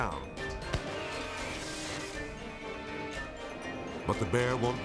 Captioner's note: flare gun fires